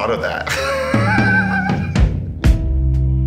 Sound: both laughing; ambient music

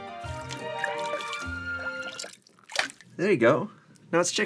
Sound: water sloshing

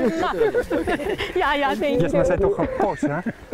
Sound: laughter

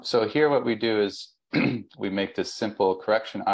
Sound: clears throat

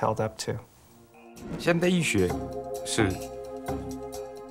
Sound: speaking mandarin

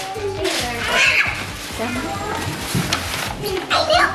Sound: screams

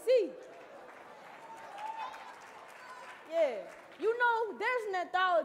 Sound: audience cheering

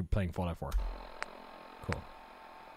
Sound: static

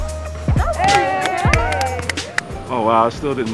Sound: upbeat music; cheering and applauding

